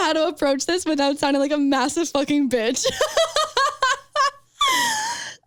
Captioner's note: laughs